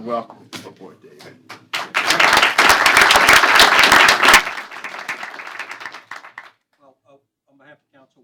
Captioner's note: applause